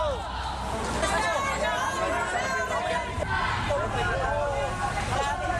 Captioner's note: protestors chattering